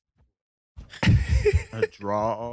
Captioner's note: laughing